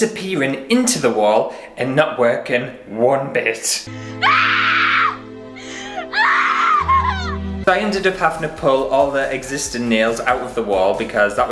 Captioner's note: hysterical Crying